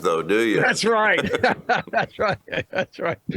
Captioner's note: laughs